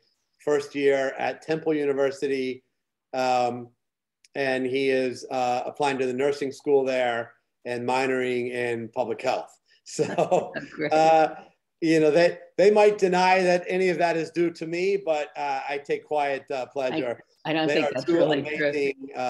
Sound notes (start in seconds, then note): 10.0 laughs